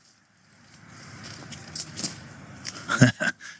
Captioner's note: engine noise